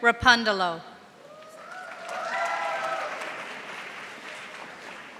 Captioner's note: audience applauding